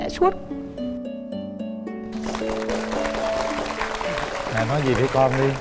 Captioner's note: applause